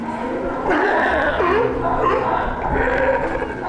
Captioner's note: sea lion calls